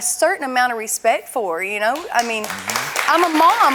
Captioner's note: audience clapping